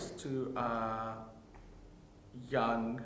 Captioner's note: none